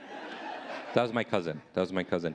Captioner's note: audience laughing